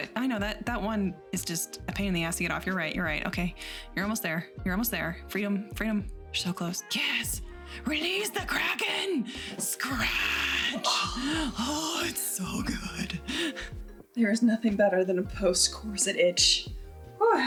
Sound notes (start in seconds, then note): 9.4 groans